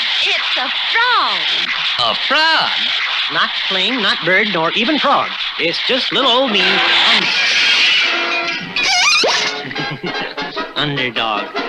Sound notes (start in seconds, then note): 6.8 crash!; 8.7 laughs!